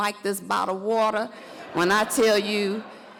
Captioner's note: audience laughs